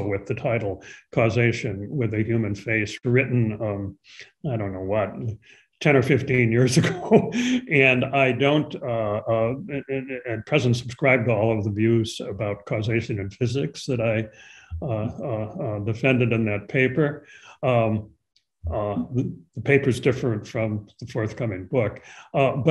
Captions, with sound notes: with the title "Causation with a Human Face" written, I don't know what, 10 or 15 years ago. (chuckles) And I don't, in present, subscribe to all of the views about causation in physics that I defended in that paper. The paper's different from the forthcoming book,